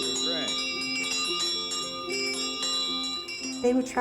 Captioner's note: bells ringing